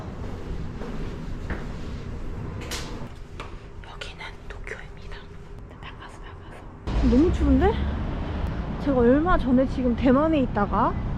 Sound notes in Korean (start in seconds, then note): 5.3 속닥